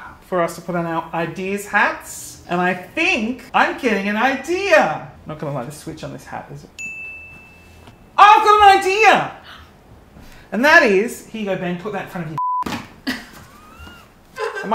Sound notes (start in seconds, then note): 6.8 bell dings; 9.4 gasps; 12.4 beep; 13.0 chuckles